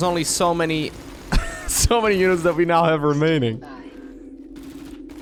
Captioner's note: laughs